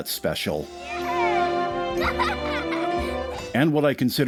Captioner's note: joyful laughter